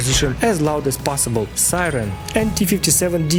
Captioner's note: siren